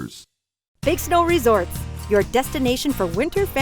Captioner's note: voiceover